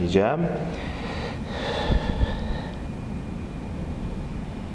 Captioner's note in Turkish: Nefes sesleri